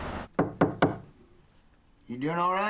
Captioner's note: knock knock